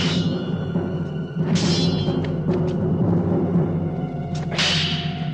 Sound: clinking; clinking

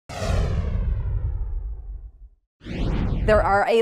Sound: explosion sound effect

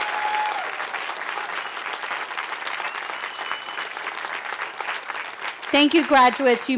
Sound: cheering

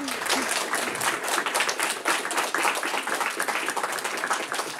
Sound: audience applauding

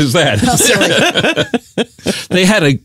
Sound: laughing

